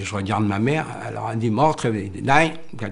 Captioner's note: foreign language